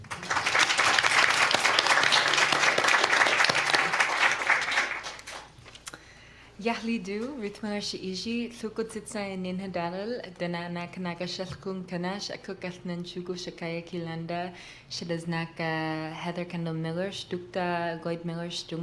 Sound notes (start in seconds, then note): 0.0 applause; 7.1 non-english speech